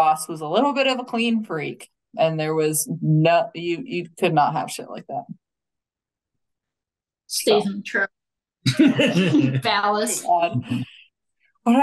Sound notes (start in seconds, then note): 7.5 faintly speaking; 8.6 laughing